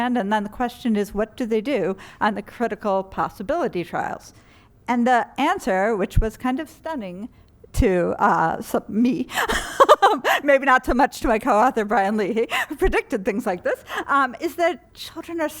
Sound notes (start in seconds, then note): 9.4 laughter